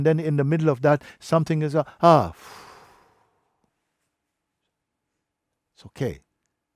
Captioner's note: long, calm exhale